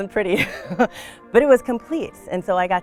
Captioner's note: laughs